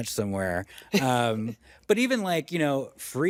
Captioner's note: chuckles